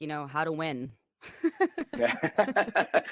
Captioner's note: laughter